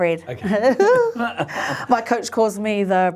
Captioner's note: both laughing